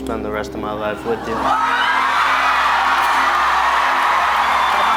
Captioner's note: audience cheering